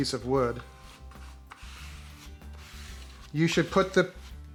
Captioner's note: gentle plastic scraping